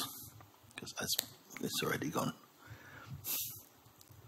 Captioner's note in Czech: lusknutí